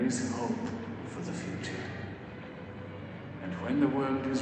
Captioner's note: Nemo's voice